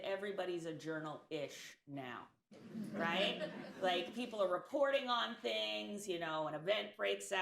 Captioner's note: laughter